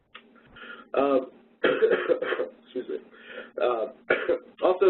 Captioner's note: coughs